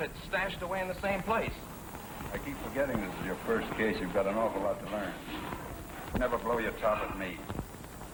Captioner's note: none